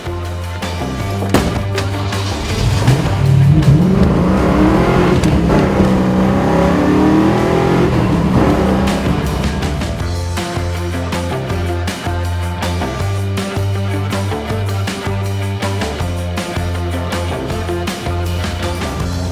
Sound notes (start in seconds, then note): 0.3 upbeat swinging music; 4.0 rumbling, powerful motor sound; 10.0 upbeat swinging music